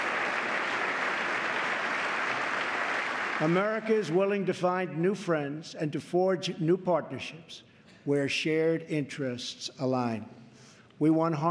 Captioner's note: applause